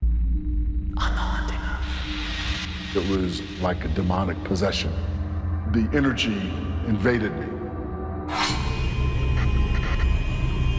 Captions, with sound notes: - [whispered] On "The Haunting Of..." - It was like a demonic possession. The energy invaded me. [suspenseful music]